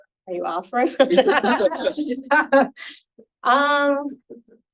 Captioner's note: panelists laughing